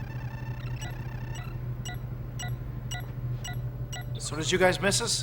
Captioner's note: machine beeping